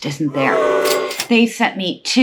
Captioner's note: booing